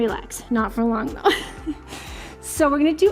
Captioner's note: laughs